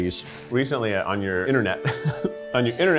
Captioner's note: chuckles